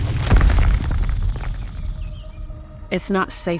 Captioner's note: snake rattles